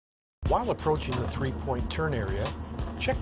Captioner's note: voiceover